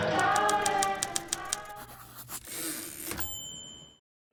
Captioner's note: typewriter sounds; typewriter dings